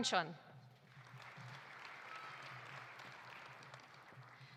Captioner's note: audience applauding